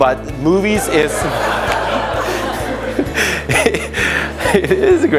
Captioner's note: audience laughing